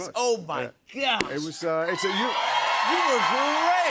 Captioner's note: cheers and applause